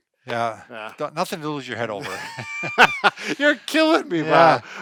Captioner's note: laughs